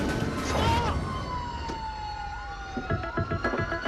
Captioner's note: siren wailing